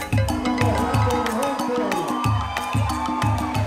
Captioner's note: cheering